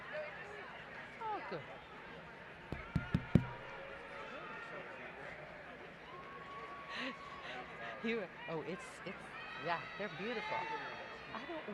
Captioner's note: applause